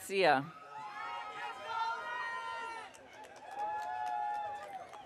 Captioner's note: audience cheering